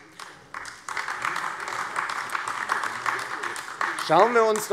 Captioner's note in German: Beifall AfD